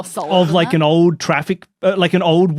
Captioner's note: gasps